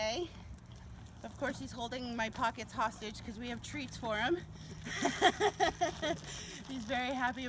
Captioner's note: laughs